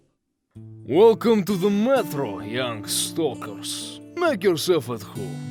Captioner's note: happiness noises